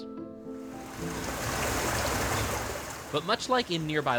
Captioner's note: water lapping